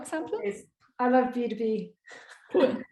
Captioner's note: chuckles